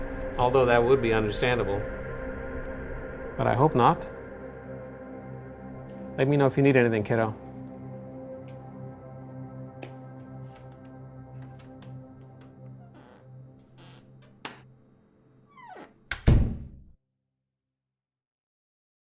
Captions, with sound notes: - Although that would be understandable, but I hope not. Let me know if you need anything kiddo. (door squeaks and closes)